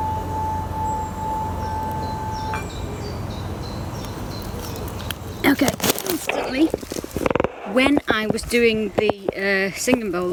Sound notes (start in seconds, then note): 3.2 birds chirping